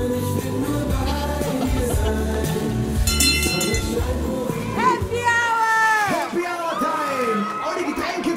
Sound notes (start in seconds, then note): 3.0 ringing